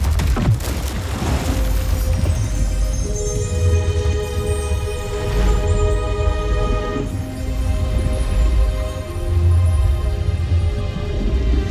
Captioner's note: water splashes; water gurgling; mystical music playing